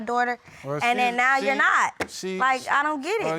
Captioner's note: stammering